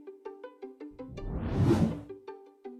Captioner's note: wind whooshing; upbeat music